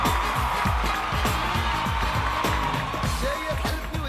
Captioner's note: cheering